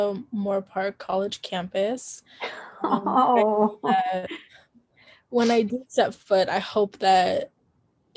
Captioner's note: chuckling